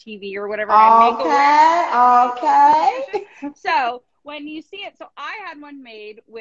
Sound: laughing

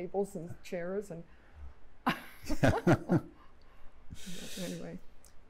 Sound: laughter

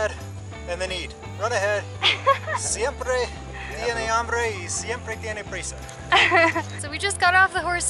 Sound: laughter

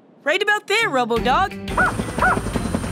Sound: barking

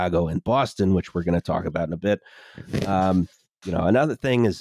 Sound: muffled thumping sound

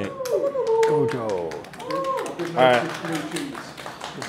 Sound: team cheers and applauds

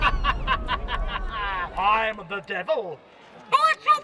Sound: evil laughter

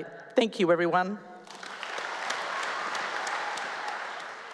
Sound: applause

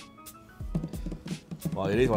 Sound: drumming on cardboard

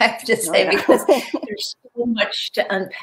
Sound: laughing

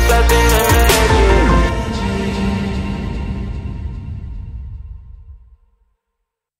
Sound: echoing

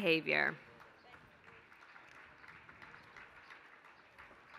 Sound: applause

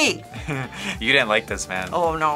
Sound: laughs

